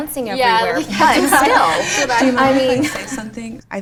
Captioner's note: laughter